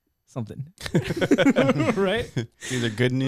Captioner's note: laughing